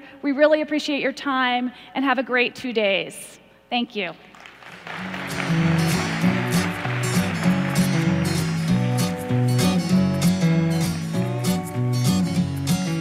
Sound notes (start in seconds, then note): 4.3 applause